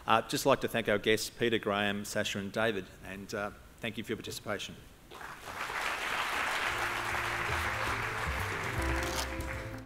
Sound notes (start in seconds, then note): 5.1 applause